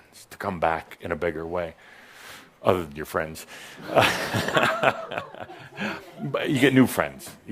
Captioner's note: Adamus chuckles